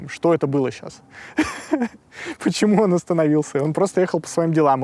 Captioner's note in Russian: смеётся